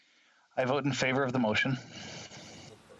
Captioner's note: speaking French